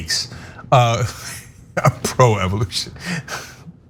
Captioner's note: laugh